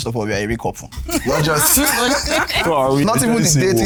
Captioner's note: laughs